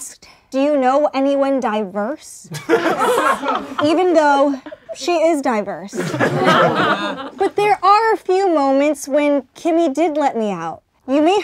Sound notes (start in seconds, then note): 6.5 laughing